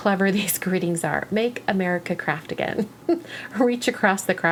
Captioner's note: giggles